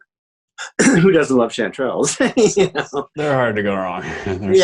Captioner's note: laughs